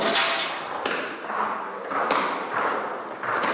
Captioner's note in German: Klappernde Schritte